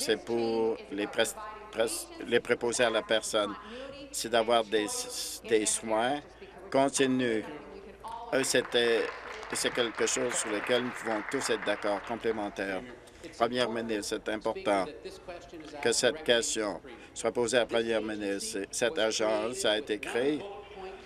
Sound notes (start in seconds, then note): 13.1 applause